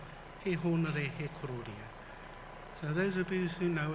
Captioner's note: foreign language